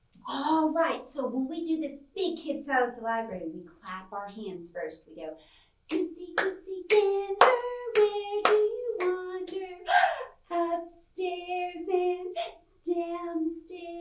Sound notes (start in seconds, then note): 9.8 gasps